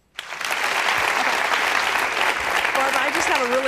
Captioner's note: applause